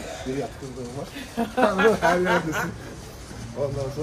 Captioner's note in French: rires